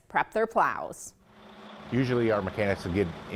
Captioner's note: truck buzzing